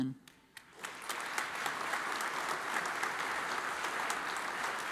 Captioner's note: audience applauds